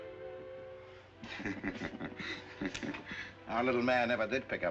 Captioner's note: both chuckle